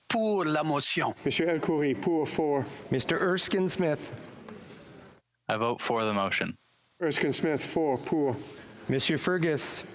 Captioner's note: speaking FRENCH